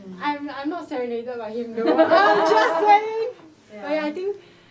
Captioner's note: laughs